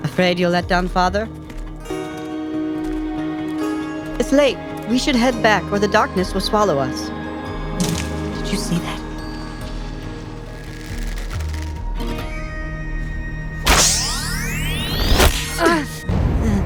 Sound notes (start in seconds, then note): 10.4 bowstring Tightening; 13.6 arrow Thwips